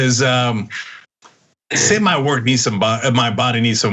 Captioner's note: laugh